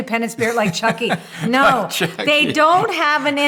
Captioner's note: laughter